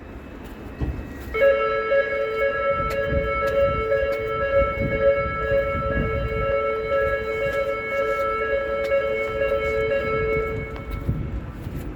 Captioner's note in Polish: dźwięk alarmu